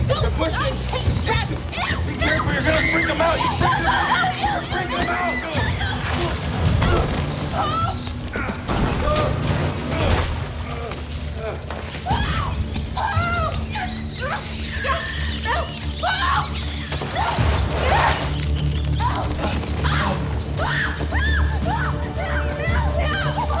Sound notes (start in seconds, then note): 6.0 grunting; 8.6 grunting; 13.6 rats squeaking; 17.6 grunts; 19.8 screaming; 22.2 rats squeaking